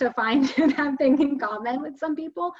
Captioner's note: chuckles